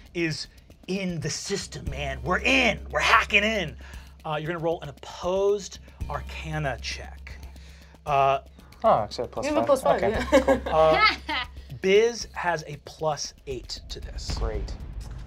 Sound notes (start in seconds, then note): 9.9 laughs